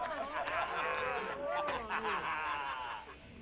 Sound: bill laughing

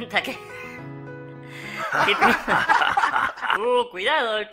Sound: everyone laughs

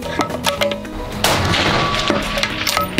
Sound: bam!!!

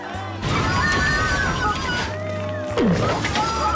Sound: crashing noises

